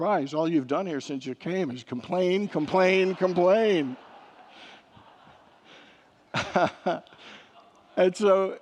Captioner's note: congregants laugh